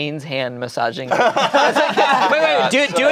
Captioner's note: everyone laughing